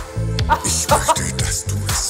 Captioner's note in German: Lautes Lachen